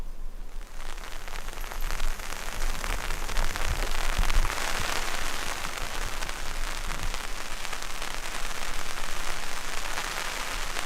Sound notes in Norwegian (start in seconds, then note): 1.9 lyd av regn som øser ned